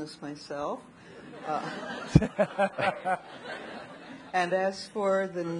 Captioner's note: audience laughing